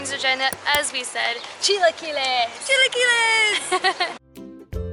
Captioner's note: laughter